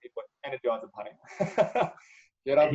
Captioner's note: both laugh